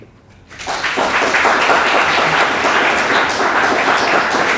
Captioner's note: audience applauds